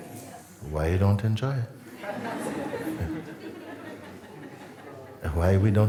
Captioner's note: laughter